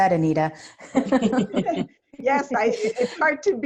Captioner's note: laughs